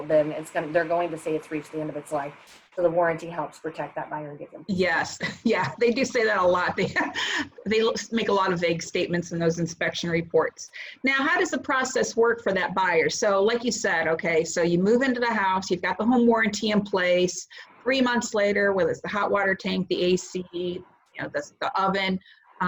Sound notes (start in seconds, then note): 4.7 laughs